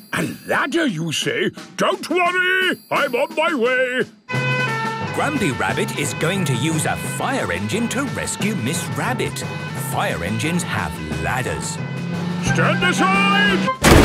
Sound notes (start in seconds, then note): 4.5 sirens